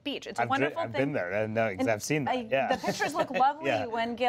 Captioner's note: laughs